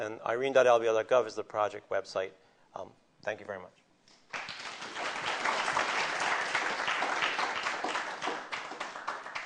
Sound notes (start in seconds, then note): 4.2 applause